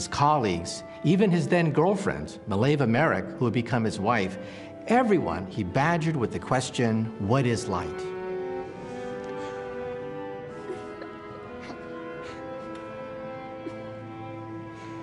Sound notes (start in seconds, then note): 10.0 <i> laughing</i>